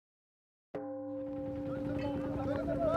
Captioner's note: gong sounds